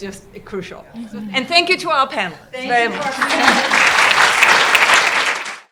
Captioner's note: applause